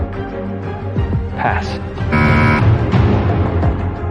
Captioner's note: buzzer sounds